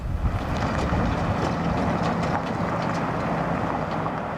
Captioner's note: tires rolling over gravel